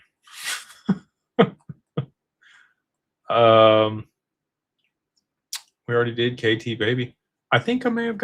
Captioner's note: laughter